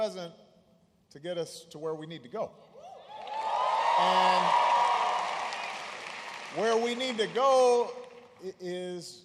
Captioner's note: applause